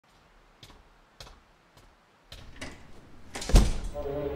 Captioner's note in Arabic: الخطوات تبتعد والباب يغلق